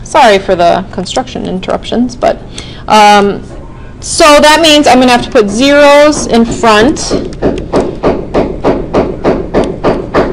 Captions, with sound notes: Sorry for the construction interruptions, but. So that means I'm gonna have to put zeroes in front (banging)